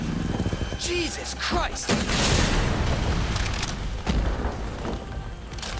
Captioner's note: rocket launcher firing